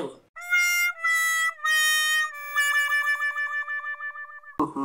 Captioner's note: wha wha wha sound effect